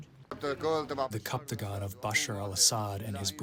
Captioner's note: through translator